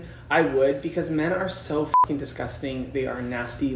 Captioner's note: beep